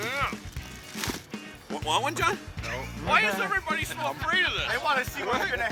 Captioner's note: laughing